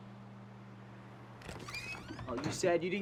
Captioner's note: door creaks open